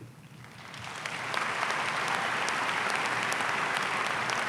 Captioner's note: audience applauding